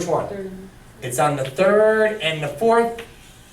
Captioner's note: voiceover